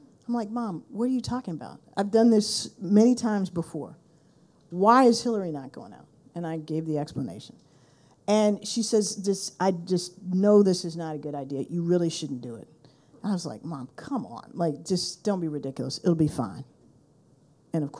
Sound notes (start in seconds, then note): none